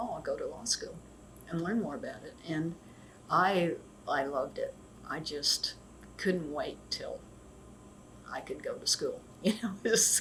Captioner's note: laughs